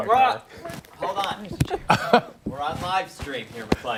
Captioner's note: laughter